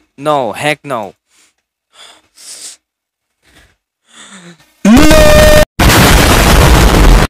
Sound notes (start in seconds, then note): 1.9 breathing moment